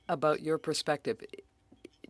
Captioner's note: speaking French